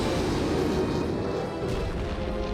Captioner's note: rockets blast